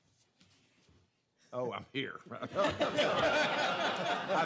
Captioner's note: laughter